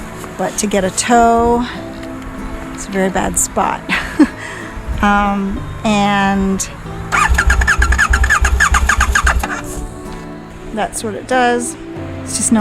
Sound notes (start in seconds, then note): 7.1 engine not starting